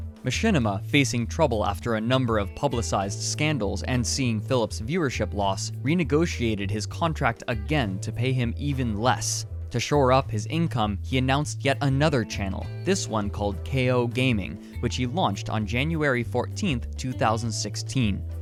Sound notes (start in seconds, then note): none